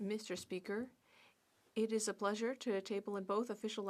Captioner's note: speaking French